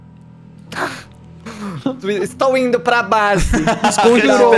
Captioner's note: laughing